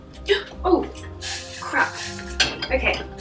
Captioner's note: sizzle